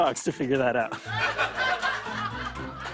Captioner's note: laughter